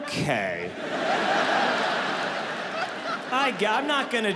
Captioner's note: audience laughing